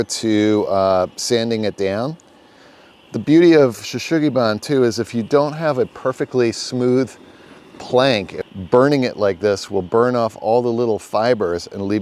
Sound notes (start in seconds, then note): 3.7 speaks in foreign language